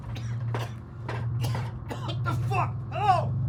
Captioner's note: person coughing